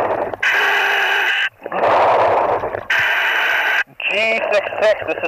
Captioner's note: breathing heavily